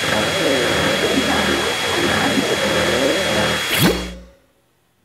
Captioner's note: squelching